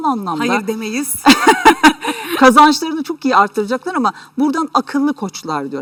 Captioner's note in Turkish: kahkaha